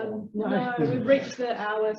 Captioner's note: background chatter